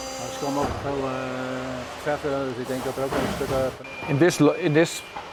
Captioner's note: responding in Dutch